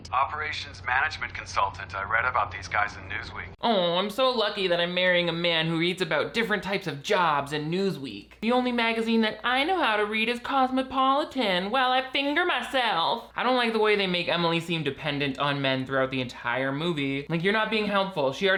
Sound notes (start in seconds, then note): none